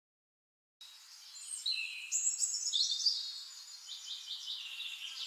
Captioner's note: birds chirping